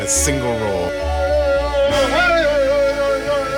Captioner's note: chanting